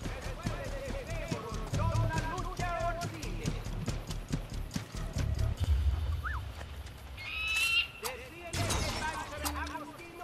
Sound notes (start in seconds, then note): 6.2 Ezio whistles; 7.1 eagle screech; 8.1 hidden blade stabbing sound